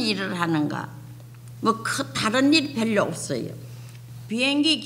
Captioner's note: speaking foreign language